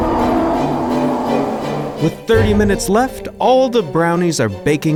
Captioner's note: dramatic classical music; bear groans